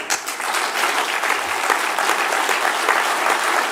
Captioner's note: applause